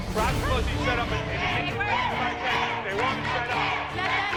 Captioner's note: audience chanting "Let them dance!"